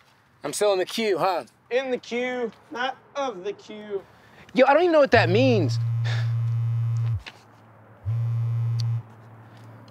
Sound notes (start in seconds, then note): 5.7 cellphone vibrates; 6.0 sighs